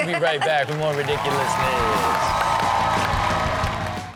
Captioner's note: audience applauds and cheers; upbeat intro music